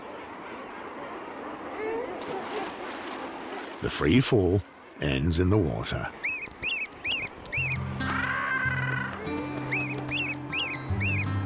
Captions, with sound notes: [splashing] ..the free-fall ends in the water. [birds chirping]